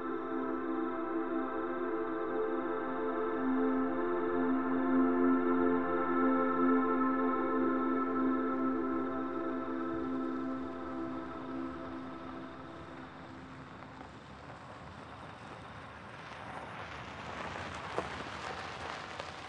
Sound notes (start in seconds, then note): 8.0 gravel grinding; 8.0 placid music; 13.3 gravel grinding